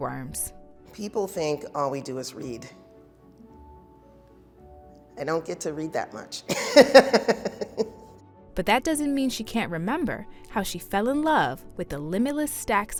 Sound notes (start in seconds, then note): 6.5 laughing